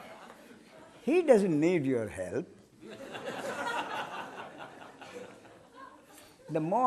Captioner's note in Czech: smích; smích